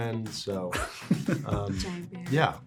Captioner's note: laughs